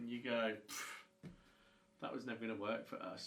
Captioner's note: brrrrh